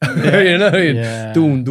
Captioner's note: all laughing